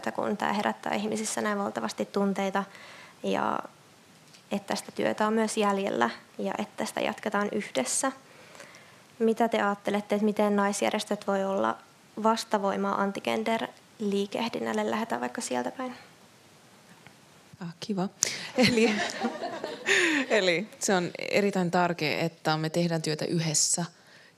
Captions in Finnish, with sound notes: kun tämä herättää ihmisissä näin valtavasti tunteita. Että sitä työtä on myös jäljellä ja tästä jatketaan yhdessä. Mitä te ajattelette, että miten naisjärjestöt voi olla - vastavoima anti-gender- liikehdinnälle? Lähdetään vaikka sieltä päin. Kiva. [Yleisö nauraa] On erittäin tärkeää, että me tehdään työtä yhdessä, -